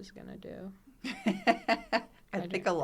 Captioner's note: laughs